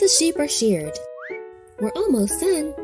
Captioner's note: air whistling